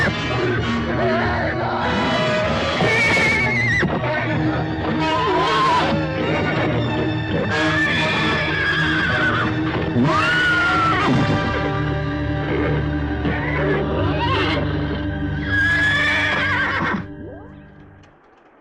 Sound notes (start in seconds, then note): 1.0 Papers screaming; 5.6 horse neighing